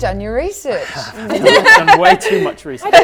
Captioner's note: laughing